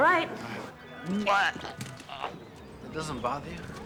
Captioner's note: vomiting